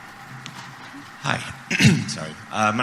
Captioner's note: clears throat